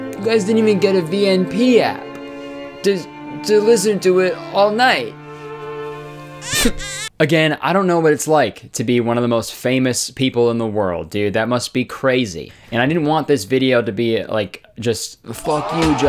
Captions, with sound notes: you guys didn't even get a VNP app to, to listen to it all night [Baby Crying Sound effect] Again, I don't know what it's like to be one of the most famous people in the world, dude. That must be crazy. And I didn't want this video to be like,